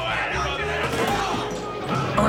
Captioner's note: fighting breaking out